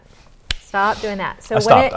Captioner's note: slaps